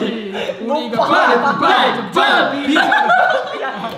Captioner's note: laughs